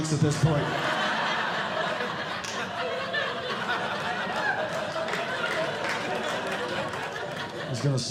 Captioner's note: audience Laughing